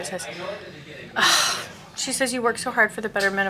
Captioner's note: sighing